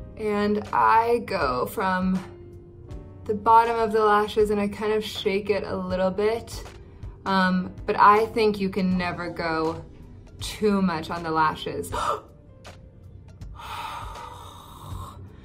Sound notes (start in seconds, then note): 13.6 gasp; 13.6 sigh